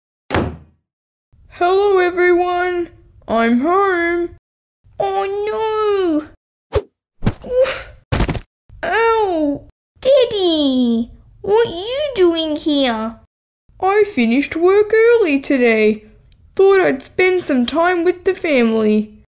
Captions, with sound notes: (Slam!) Hello everyone I'm home! Oh no! Ooofff! (Thud!) Owww! Daddy! What you doing here? I finished work early today Thought I'd spend some time with the family